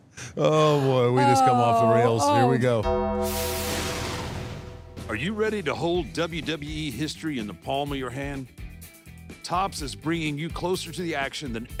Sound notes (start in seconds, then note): 2.8 bell tolls